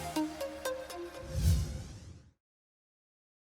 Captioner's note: whoosh